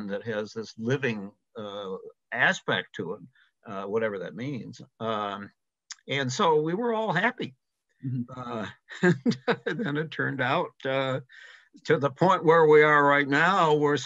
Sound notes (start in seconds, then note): 8.1 chuckles